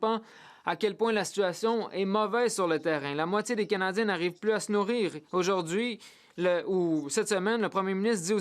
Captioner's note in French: voix de l'interprète